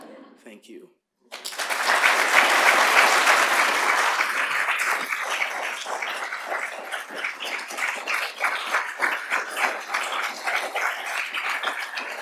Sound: applause

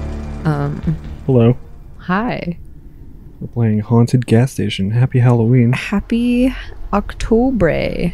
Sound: none

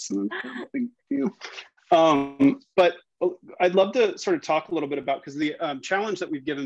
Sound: audio glitch

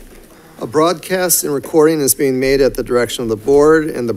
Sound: none

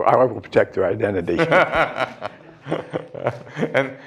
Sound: laughter

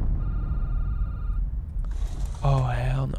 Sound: phone ringing

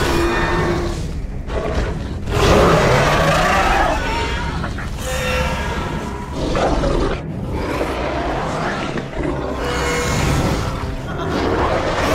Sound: screeching and roaring sounds

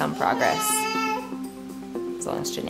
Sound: exclaiming

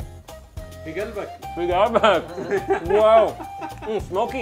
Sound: both speak foreign language

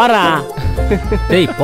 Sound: laughs

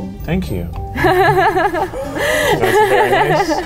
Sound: laughs

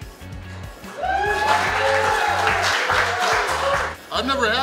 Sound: cheering & Clapping

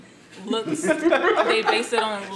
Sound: everyone else laughs

